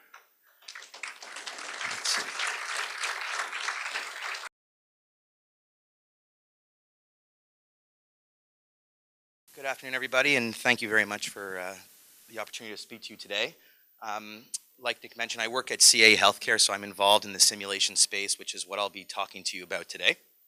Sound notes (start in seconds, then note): 0.5 applause; 4.8 silence